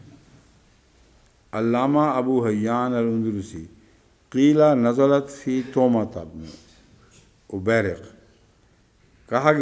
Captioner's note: Arabic